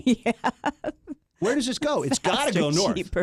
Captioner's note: laughs